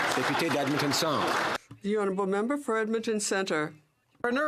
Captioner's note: some Applause